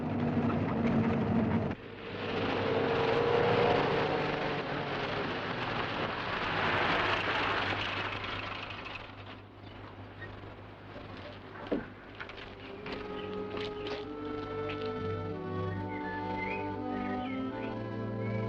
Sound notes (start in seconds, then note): 12.5 música suave; 14.0 chilrear dos pássaros